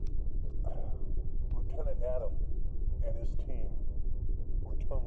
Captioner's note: sighs